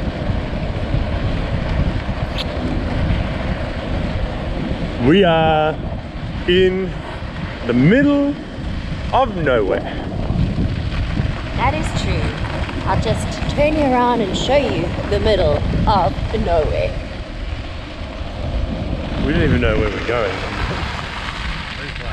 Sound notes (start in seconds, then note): 0.2 tyres crunching; 2.3 kissing